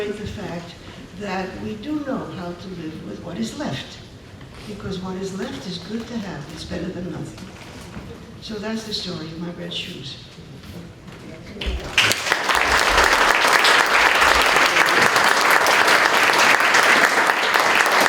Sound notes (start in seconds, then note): 11.6 applause